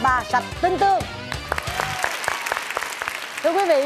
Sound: claps

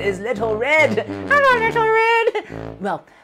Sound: speaking elvish

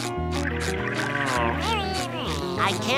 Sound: buzzing

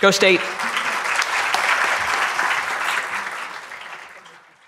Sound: audience applauding

